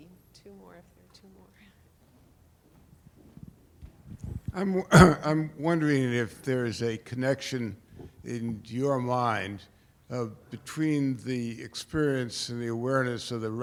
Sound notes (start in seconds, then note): 0.3 voiceover; 4.8 coughs; 5.1 voiceover